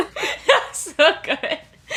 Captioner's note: laughing